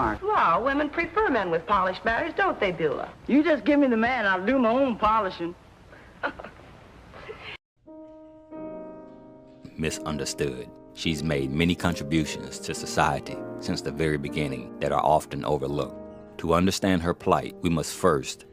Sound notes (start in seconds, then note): 6.0 laughs